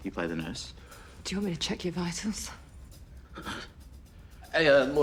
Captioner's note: breathes shakily